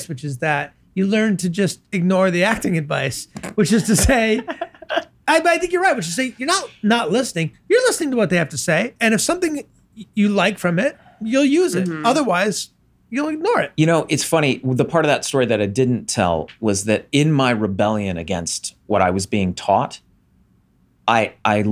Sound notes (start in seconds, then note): 3.7 laughs